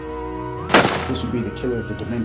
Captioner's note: gunshot